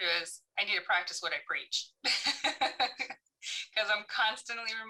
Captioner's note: laughs